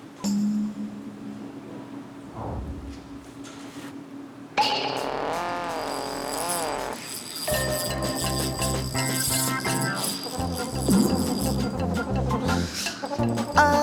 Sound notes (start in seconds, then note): 7.4 the fishing rod is making an unusual sound